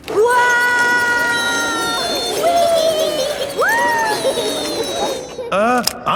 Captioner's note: all yelling